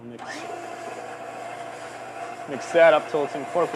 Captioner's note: whirring